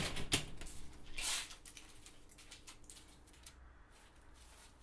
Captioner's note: door thuds; leaves rustling